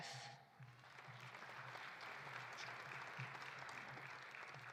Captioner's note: audience applauding